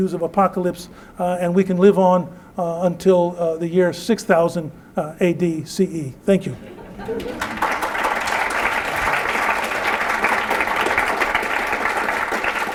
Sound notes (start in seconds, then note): 6.5 laughter; 7.0 applause